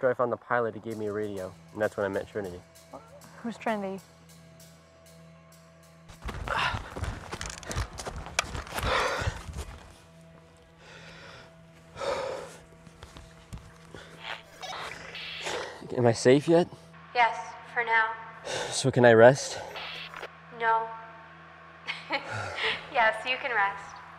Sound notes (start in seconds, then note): 6.1 running footsteps; 9.1 inhales sharply; 14.2 radio bleep; 21.9 laughing